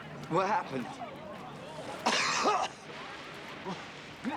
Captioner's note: coughs